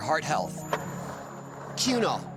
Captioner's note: skateboard wheels roaring